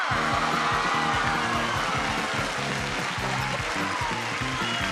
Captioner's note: audience applause